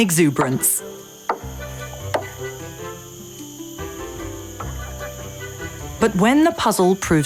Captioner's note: upbeat music; banging